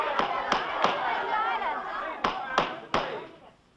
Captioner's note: gavel banging